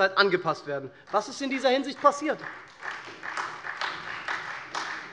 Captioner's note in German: Vereinzelter Beifall SPD